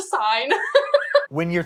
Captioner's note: laughs